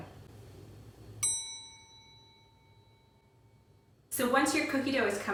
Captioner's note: bell dings